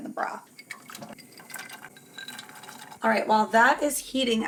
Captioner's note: splashing sound